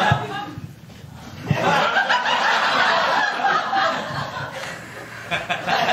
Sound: laughter

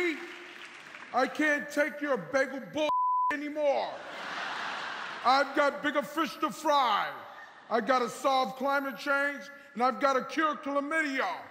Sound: cheers and applause

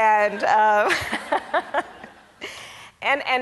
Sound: Kamala laughs; audience laughs

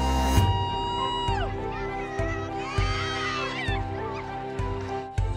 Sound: crowd noise intensifies

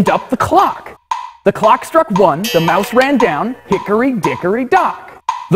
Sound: clang!

